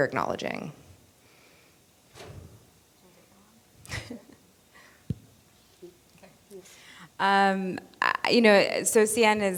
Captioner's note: laughter